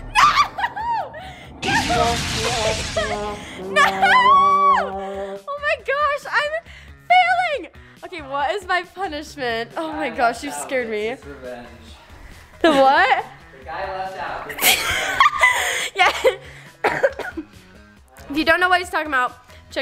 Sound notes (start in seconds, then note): 3.1 sad trombone womping; 14.6 laughs; 16.8 coughs